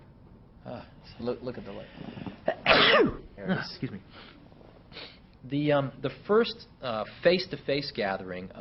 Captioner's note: sneezes